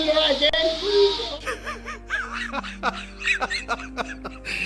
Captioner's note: laughter